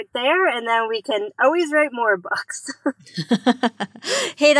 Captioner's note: laughs